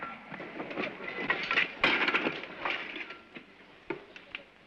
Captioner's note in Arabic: أصوات الأشياء